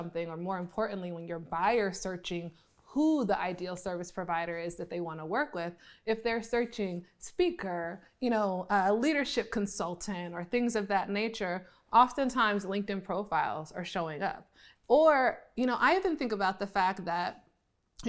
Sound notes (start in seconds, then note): none